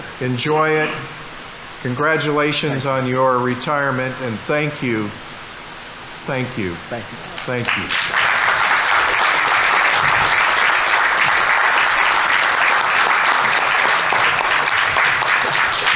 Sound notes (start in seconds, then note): 7.3 audience applauding